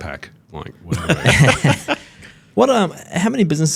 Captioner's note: all laugh